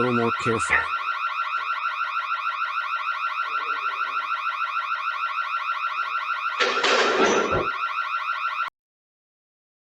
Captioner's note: car alarm continues